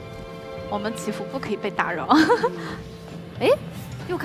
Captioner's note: laughs